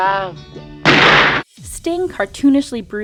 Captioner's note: gun shoots